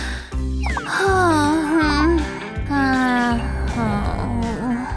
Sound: snoring

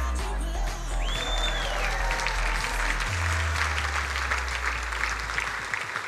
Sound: crowd cheering and applauding

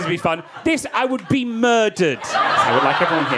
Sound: audience laughing

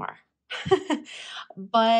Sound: laughs

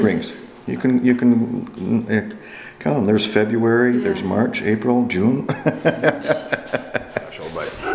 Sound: chuckles

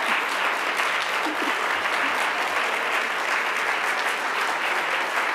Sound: chuckles

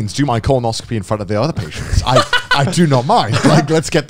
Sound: laughing

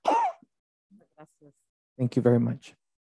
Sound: speaks Spanish

